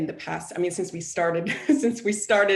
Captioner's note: chuckles